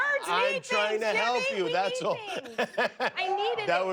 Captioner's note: laughter